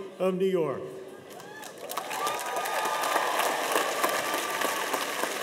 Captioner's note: audience applauding